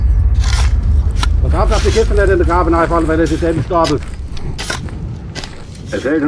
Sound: strong wind, babble of voices

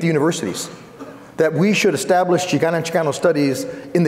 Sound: foreign speaking

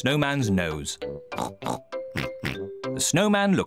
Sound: both snort

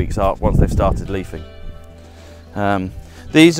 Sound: wind whistling

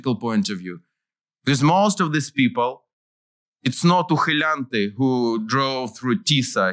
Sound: non-english

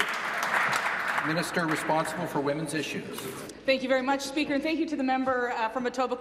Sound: applause

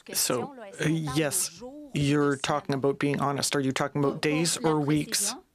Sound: speaking French

